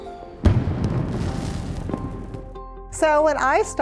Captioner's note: fireworks explode